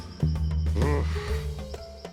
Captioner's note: groans